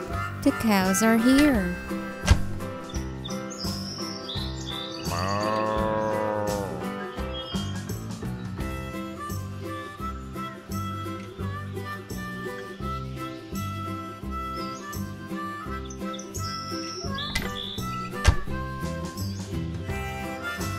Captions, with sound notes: The cows are here (Cow moos)